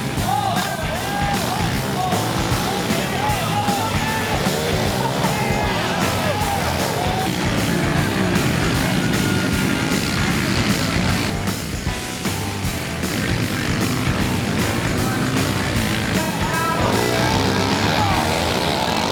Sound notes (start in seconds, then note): 0.1 crowd cheering; 7.1 engines roaring; 10.5 rock music playing